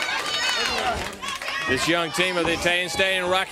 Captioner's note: crowd cheering